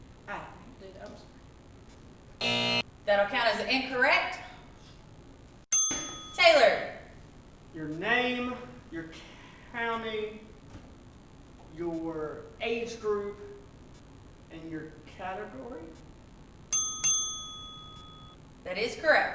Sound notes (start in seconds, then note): 2.4 buzz; 16.7 ding Ding